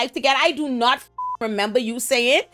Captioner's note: beep